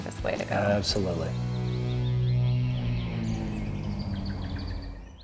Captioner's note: birds chirping